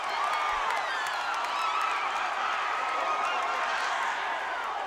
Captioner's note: crowd cheering